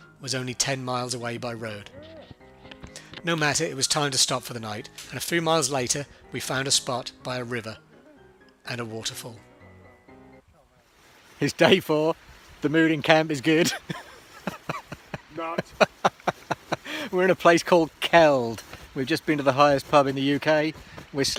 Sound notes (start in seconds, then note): 15.5 laughs